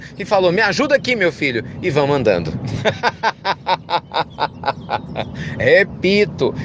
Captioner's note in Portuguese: Risos